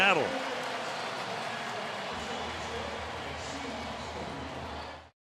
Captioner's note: pa announcement